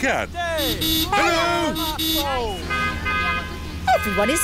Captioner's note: honking; italians honk back